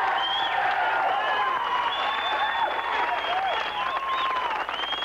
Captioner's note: cheering